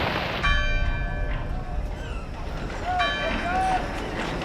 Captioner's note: bell chiming